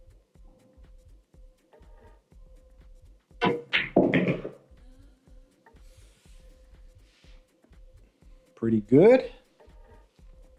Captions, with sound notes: (balls hitting) - Pretty good.